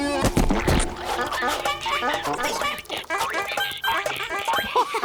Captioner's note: squeaking; laughing